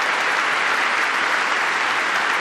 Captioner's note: applause